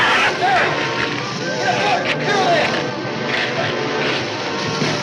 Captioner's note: shrew shrieks; muffled yelling